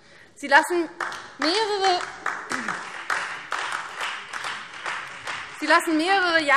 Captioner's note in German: Beifall Freie Demokraten und DIE LINKE